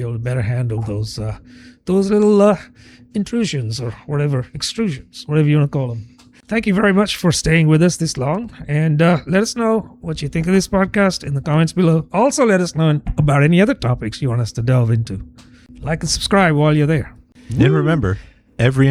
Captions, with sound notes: better handle those [UH] those little [UH] intrusions or whatever extrusions, whatever want call them Thank you very much for staying with us this long. And [UH] let us know what you think this podcast in the comments below. Also, us know about any other topics want us to delve into. Like subscribe while you're there. And remember, every